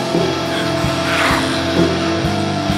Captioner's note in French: Le monstre grogne